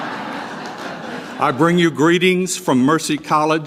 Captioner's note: laugh